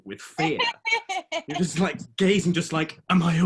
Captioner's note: laughing